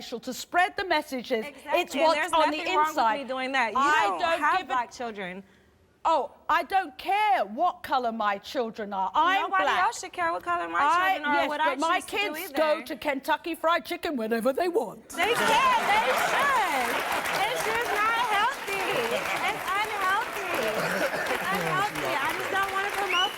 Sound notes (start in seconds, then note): 16.8 laughs